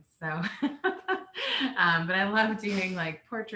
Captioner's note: laughing